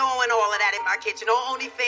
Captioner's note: bleebleep